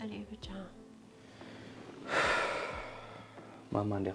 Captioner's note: deep sighs